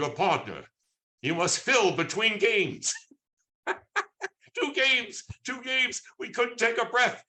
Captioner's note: laughs